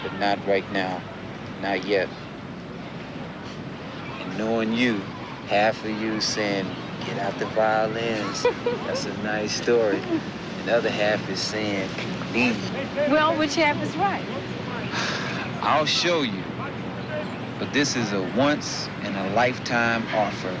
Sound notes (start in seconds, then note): 14.9 sighs